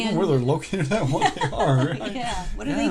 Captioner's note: laughing